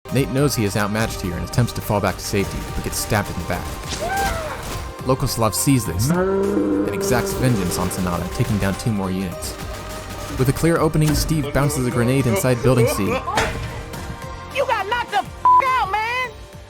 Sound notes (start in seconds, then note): 3.8 squelch; 13.4 clank